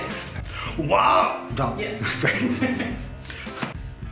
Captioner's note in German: Gelächter